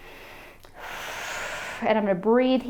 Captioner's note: exhales sharply